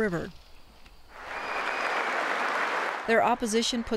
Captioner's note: audience clapping